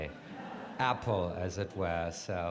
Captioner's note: audience laughs